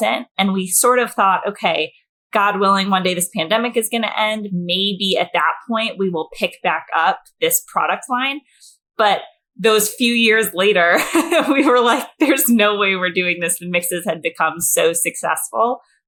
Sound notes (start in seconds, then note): 11.0 laughs